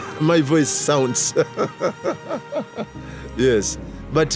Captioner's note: laughing